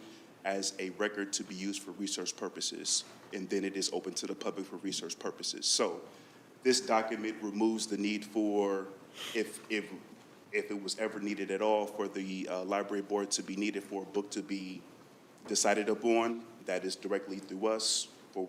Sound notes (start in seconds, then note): none